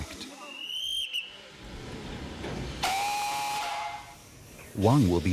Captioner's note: whistle blowing; train horn hooting